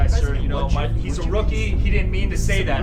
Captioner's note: Jim mutters menacingly